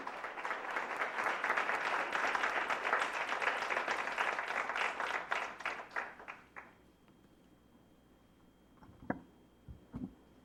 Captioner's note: applause